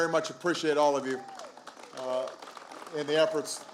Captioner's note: applause